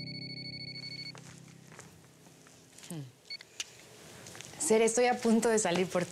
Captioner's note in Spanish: Suena un celular